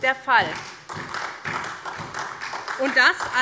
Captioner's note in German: Beifall SPD